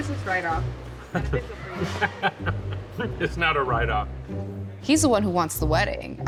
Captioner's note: laughing